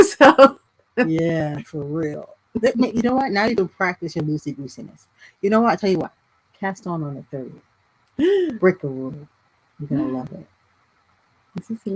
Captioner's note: gasp